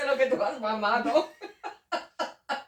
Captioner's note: laughs